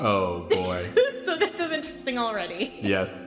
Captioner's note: laughs